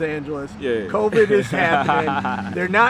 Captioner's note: giggles